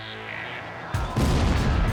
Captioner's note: explosion